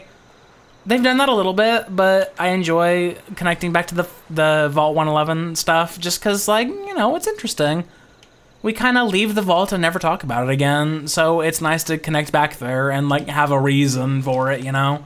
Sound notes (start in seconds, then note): none